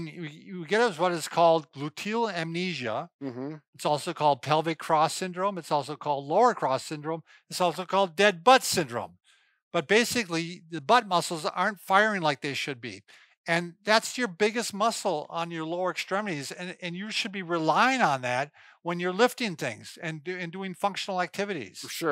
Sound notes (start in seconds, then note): none